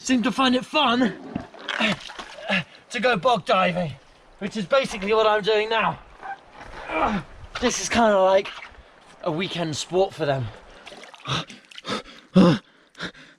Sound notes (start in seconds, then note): 1.7 gasping; 5.9 groans; 10.7 panting loudly